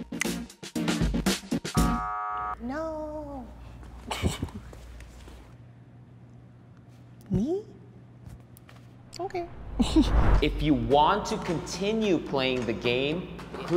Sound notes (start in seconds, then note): 1.8 buzzer buzzing; 8.9 laughing